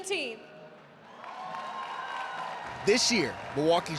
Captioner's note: audience cheering